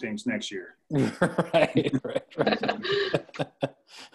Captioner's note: laughing